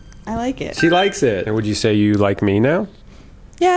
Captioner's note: bell dings